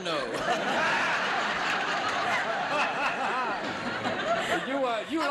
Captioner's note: audience laughs